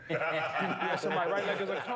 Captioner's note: laughter